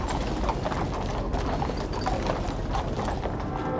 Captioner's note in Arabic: دقات جرس الكنيسة